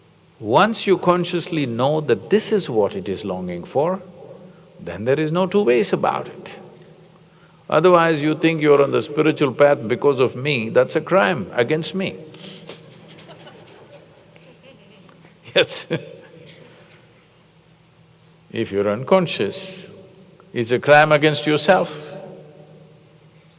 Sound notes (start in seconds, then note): 12.6 laughter; 15.8 laughs